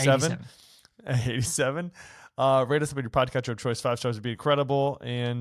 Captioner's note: chuckles